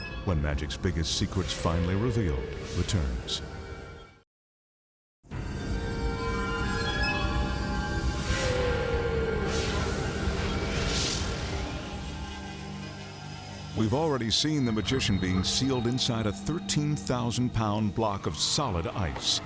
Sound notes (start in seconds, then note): 4.9 graphics whooshing; 4.9 mysterious music